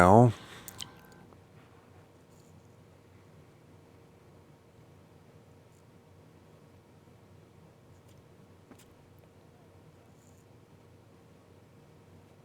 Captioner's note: silence